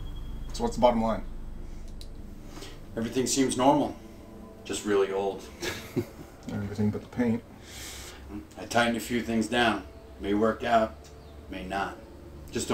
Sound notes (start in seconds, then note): 5.4 chuckles